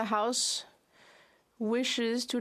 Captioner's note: speaking French